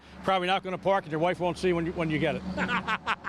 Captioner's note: laughs